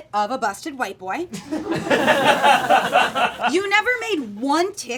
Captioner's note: audience laughing